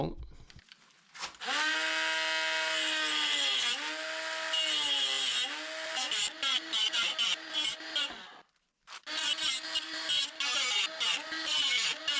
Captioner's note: motor sound